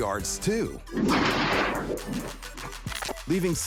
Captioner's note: wall crashing